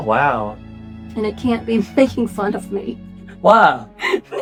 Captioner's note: laughs